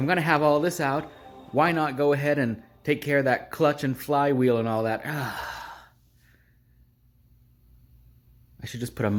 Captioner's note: sigh